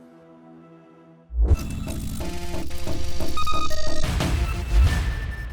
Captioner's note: technology squealing